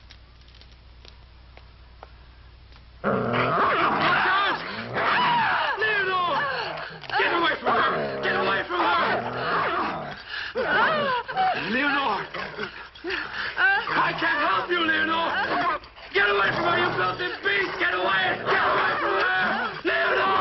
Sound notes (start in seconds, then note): 3.0 wolf growling; 3.4 Leonor screaming; 10.1 wolf growling